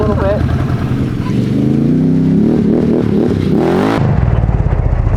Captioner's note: ATV engine roaring